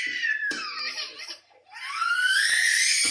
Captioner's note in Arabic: صراخ